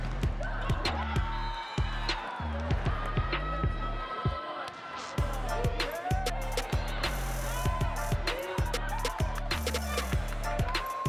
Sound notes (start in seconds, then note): 1.1 applause; 1.1 cheering; 8.4 upbeat music